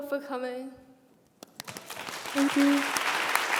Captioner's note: applause